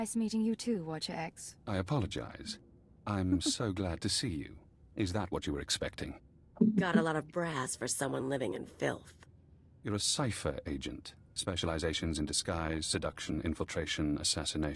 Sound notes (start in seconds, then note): 3.2 giggles; 8.8 chuckles